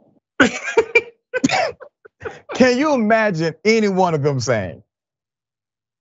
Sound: laugh

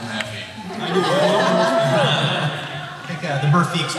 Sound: laughter

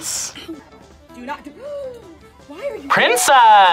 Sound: gasps

